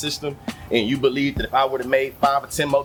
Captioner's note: birds Chirping